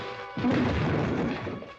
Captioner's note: loud thump